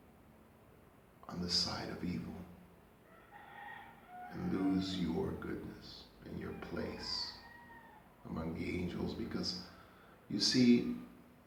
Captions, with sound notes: on the side of evil (roosters crowing) and lose your goodness and your place among the angels because you see